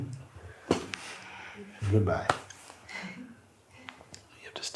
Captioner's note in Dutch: maakt plop-geluid